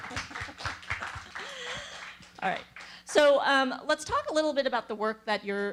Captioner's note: applause